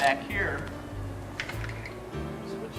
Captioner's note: mussel shells clanging